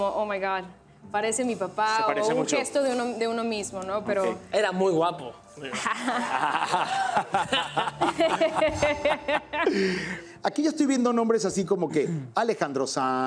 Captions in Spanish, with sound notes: parece mi papá o un gesto de uno mismo, no? - Ok. - Era muy guapo. [Risas] - Aquí yo estoy viendo nombres así como que Alejandro Sanz,